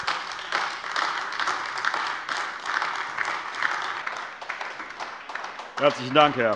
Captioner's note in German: Beifall AfD